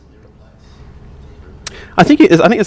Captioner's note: voiceover